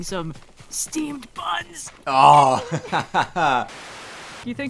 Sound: straining; laughing; Static

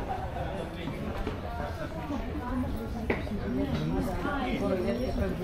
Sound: people chattering

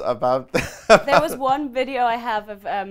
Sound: laughs loudly

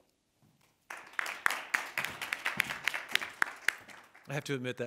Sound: audience applauding

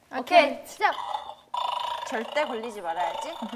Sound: growling

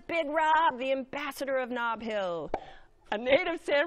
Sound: pops lips

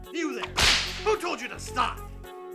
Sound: whip cracking

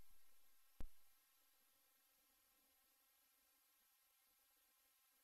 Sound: silence

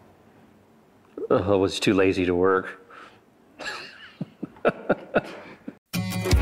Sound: laughs

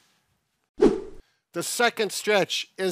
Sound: air whooshes

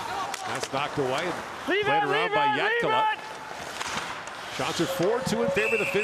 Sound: chuckling

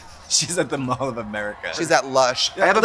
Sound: laughs

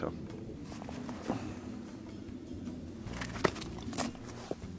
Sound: snow crunching

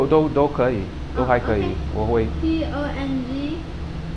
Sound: mandarin

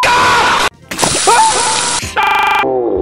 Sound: screams in agony

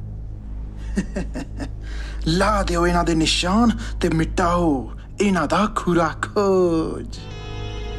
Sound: laughing

